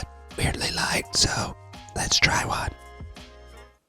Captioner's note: whispering